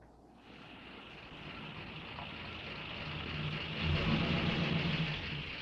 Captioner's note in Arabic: هدير محرك السيارة